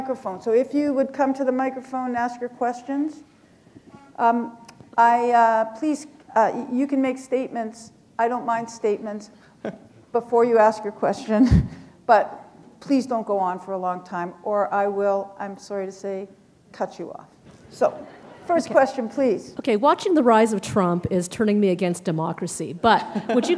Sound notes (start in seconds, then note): 11.4 chuckle; 18.0 laughter; 23.0 laughter